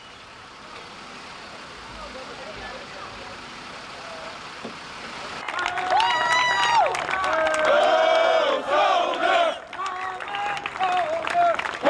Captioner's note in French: applaudissements